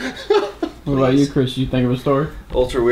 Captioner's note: laughs loudly